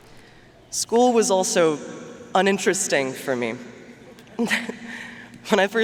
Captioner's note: chuckles